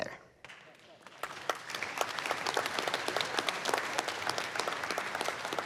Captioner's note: applause